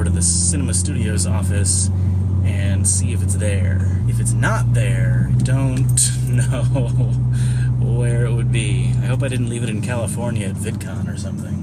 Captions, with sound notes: to the Synema Studios office and see if it’s there. If it’s not there, I don’t (laughing) know… where it would be. I hope I didn’t leave it in California at VidCon or something…